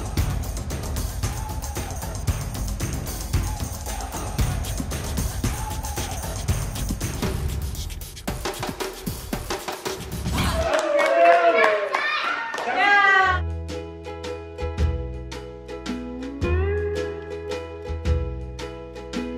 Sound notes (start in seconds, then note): 7.5 dramatic drums; 10.3 all applauding and cheering; 13.3 relaxing beach music